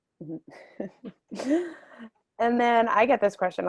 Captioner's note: laughing